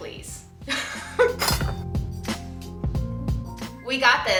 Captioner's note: laughter